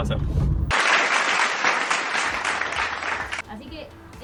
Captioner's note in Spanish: Aplausos